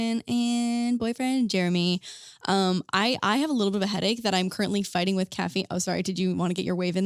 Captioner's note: none